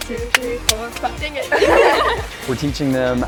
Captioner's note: students laugh